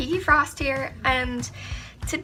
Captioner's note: iNHalE